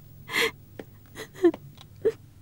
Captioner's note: crying